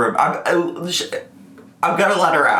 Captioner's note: murmurs